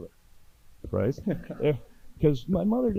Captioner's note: audience laughing